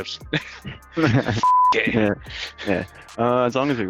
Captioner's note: beep